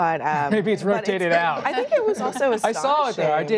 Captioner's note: laughter